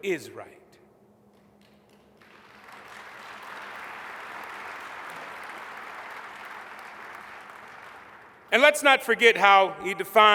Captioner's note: applause